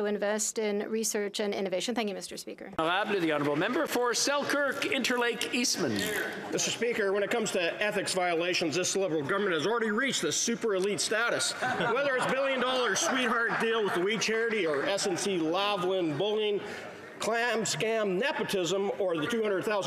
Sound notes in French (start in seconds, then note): 9.2 voix de l'interprète